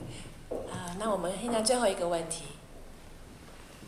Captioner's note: Mandarin